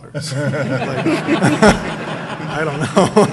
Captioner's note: audience laughing